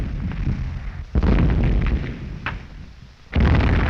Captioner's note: explosions continue